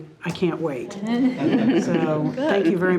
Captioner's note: participants laughing